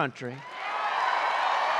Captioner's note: applause